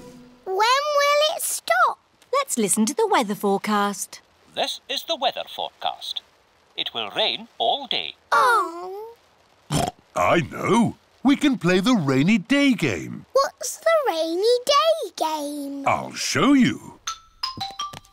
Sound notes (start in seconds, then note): 9.7 oinks